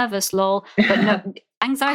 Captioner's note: laughs